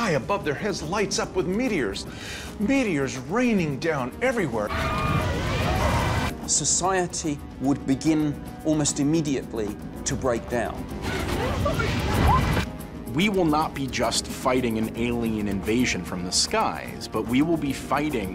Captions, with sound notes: lights up with meteors, meteors raining down everywhere. [screaming] Society would begin almost immediately to break down. We will not be just fighting an alien invasion from the skies, but we will be fighting